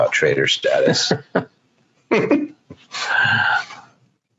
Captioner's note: laughs